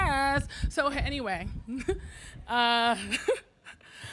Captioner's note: chuckling